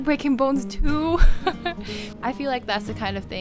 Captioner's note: laughter